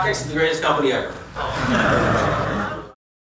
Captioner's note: laughter